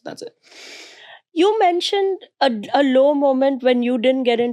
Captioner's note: inhales